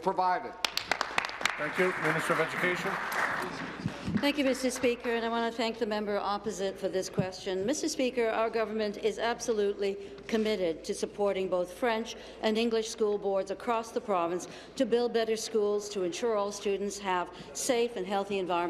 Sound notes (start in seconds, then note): 4.0 applause